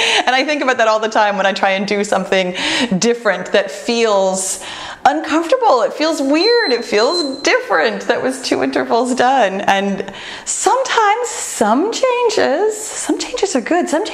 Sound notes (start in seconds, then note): 6.3 timer beeps